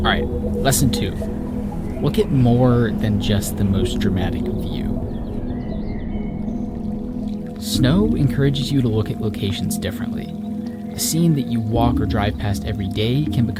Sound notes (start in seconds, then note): 5.2 birds chirping; 5.2 stream flowing